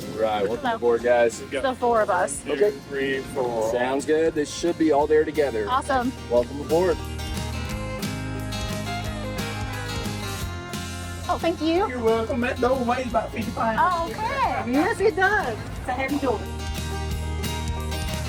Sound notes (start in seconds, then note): 14.0 laughs